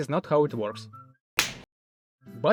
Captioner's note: slap